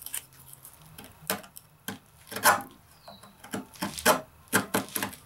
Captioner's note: tools scrape and bang